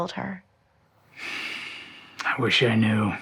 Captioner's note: Hardy sighs